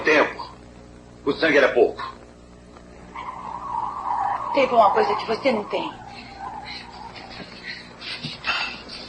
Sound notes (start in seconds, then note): 3.0 tires squealing